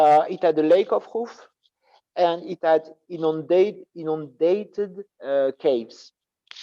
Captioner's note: non-english speech